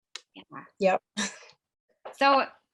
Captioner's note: chuckling